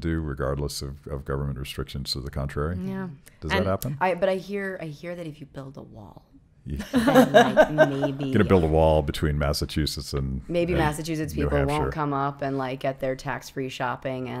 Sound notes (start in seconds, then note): 6.7 laughing